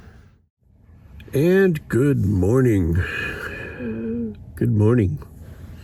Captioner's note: deep sigh